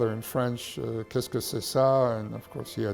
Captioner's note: speaking in French